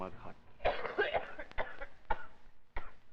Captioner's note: Freddie coughing